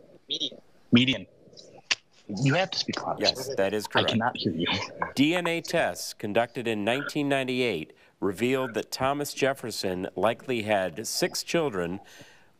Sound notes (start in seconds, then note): 3.2 chuckles